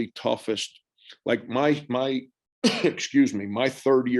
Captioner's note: cough